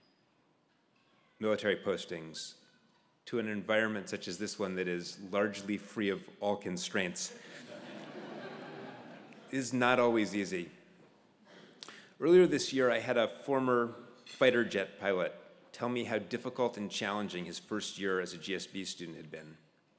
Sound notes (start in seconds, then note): 7.5 laugh